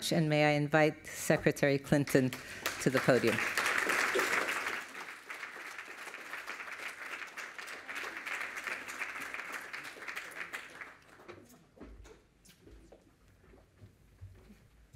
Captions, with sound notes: And may I invite Secretary Clinton to the podium. [APPLAUSE]